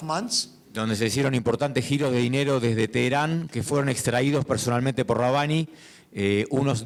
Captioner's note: speaking in foreign language